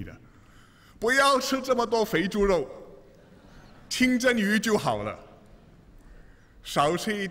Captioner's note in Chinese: 笑声